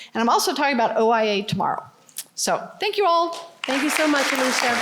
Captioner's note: applause